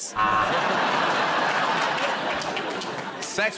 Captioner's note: laughter